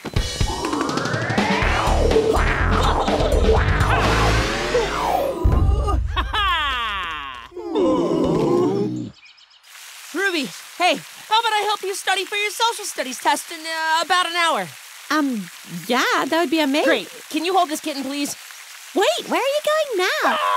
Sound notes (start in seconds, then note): 0.0 high intensity rock music; 7.5 bear sighs sadly; 7.8 dogs sigh sadly